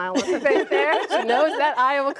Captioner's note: laughter